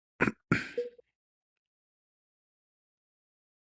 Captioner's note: clears throat